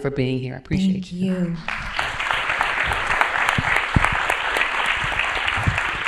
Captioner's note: applause